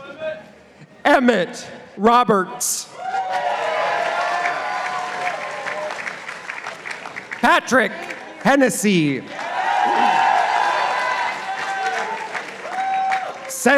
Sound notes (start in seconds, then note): 3.1 participants applauding; 9.3 participants applauding